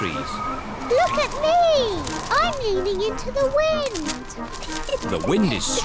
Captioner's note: giggles